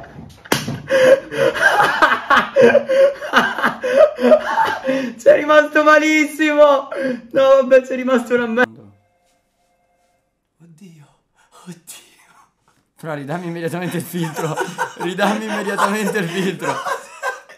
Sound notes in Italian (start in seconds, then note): 4.1 Risate